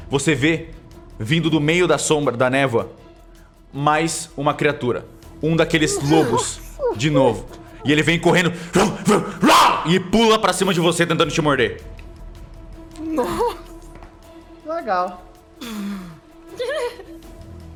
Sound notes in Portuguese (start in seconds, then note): 9.6 Argh